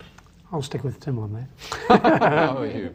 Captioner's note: laughter